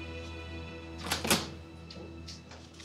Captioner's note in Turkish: Kapı açıldı